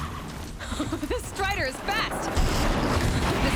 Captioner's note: laughs